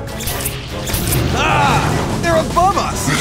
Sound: splatting

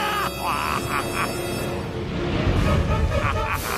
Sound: evil laugh

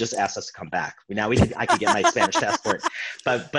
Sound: laughing

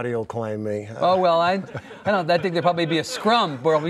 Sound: laughing

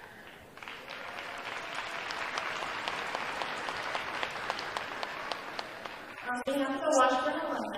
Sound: applause

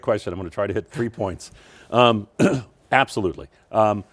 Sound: clears throat

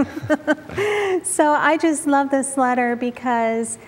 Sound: giggling

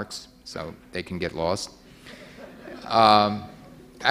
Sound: audience laughing

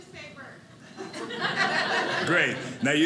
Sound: audience laughing

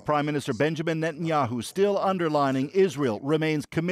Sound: speaking alternate language

